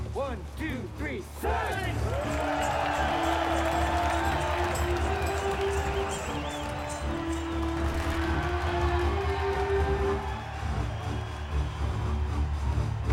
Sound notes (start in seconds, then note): 2.6 cheering